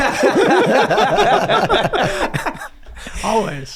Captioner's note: all laugh